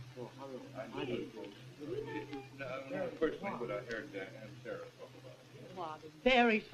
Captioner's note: general chatter